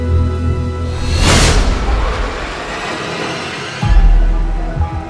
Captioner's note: ship swooshes; tense foreboding music